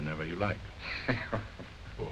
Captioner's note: chuckles